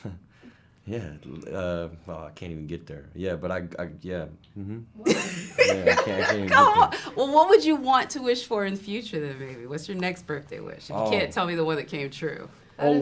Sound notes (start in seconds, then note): 5.0 laughs